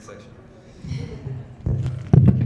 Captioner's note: audience laughs